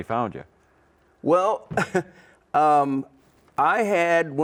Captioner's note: laughs